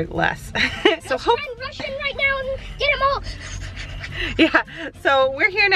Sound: child exclaiming

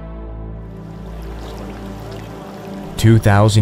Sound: water burbling

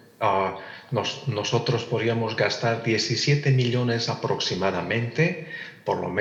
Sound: translator speaking in Spanish

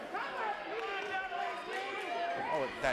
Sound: crowd

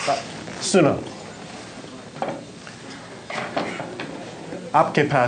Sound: speaking in foreign language

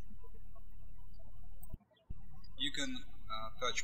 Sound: birds chirping

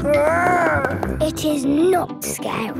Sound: growls

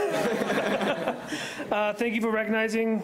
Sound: laughing

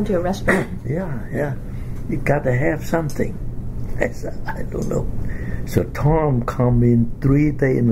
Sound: coughs

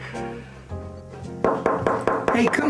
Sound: knocking

